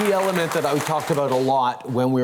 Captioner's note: applause